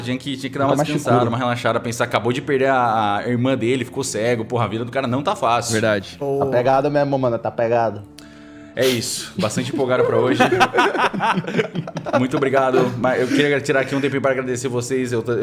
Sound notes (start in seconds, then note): 9.4 everyone laughs